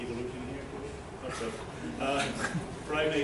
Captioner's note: laughter